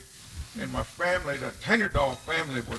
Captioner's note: speaking Kiowa